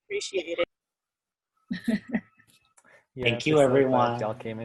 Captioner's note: laughing